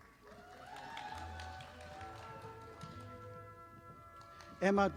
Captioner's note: audience applauding